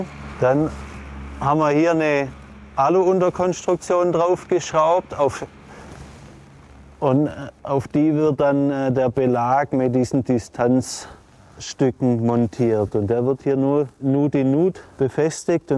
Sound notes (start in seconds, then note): none